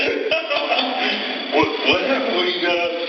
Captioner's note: laugh